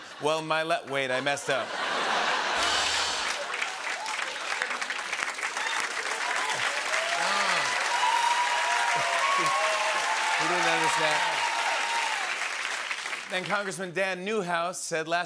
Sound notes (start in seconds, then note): 1.4 laughter; 2.6 rimshot; 4.3 cheering and applause